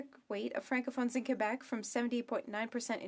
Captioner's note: speaking French